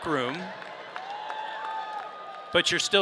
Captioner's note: audience cheering